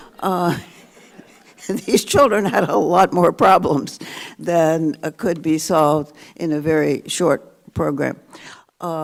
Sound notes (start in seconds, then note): 0.6 audience laughing; 2.0 laughs